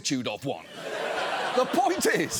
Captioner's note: audience laughs